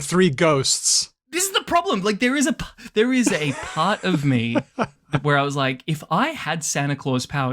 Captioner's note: laughs